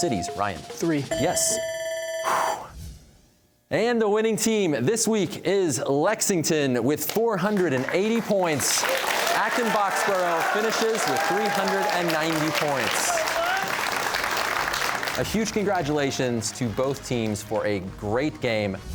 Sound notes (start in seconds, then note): 1.0 bell ringing; 2.3 exhales